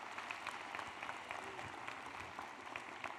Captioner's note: applause